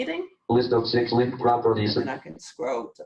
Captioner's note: JAWS speaking